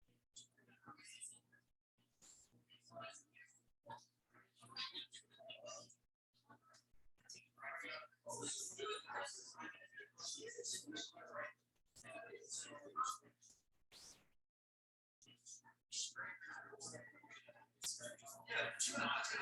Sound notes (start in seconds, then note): 10.2 people chattering indistinctly